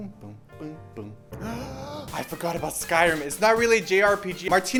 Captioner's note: gasp